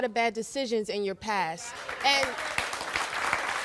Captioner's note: crowd applauds